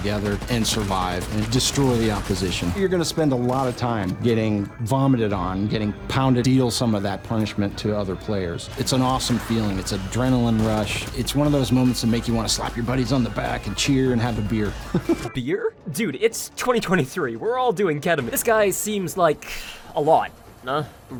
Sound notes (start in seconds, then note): 14.7 laughs